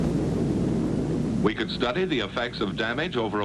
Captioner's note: loud rumbling